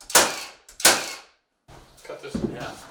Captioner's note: machine drilling